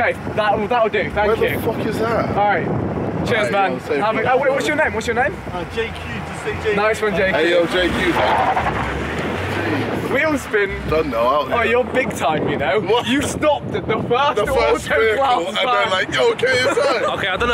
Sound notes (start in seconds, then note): 8.7 tyres squealing